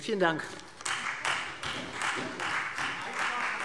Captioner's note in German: Beifall Freie Demokraten